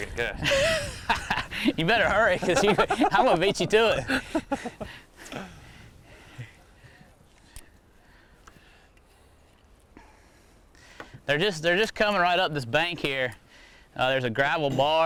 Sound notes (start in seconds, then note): 0.4 laughing